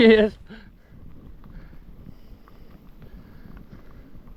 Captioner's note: laughs